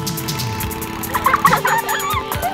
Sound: laughing

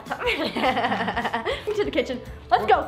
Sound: laughs

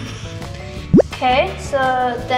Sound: bloop noise

